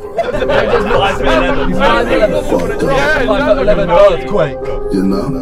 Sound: indistinct group chatter

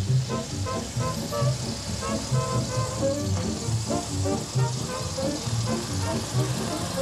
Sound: car motor sounds

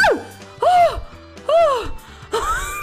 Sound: sighs; sighs again; laughs

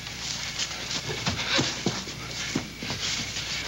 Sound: Olaf panting

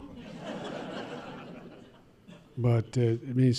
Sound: laughter

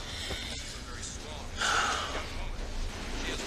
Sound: both panting

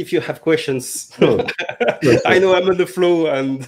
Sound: laughter

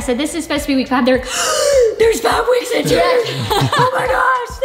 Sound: gasps

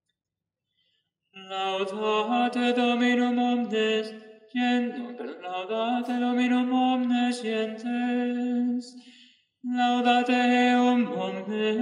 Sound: chant

